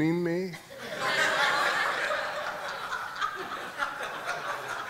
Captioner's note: audience laughing